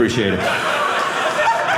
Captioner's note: audience laughing